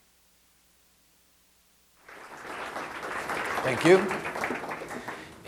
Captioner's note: audience applause